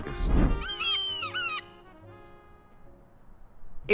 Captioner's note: eagle screeches